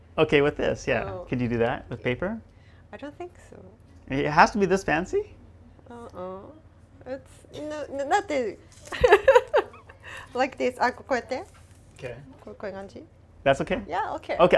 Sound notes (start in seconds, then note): 8.9 laughs